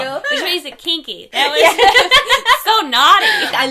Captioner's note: both laughing